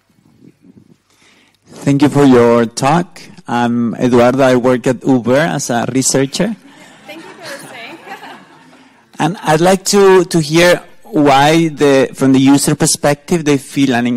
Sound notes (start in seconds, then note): 6.6 laughter; 6.7 laugh